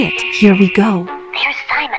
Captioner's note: whispering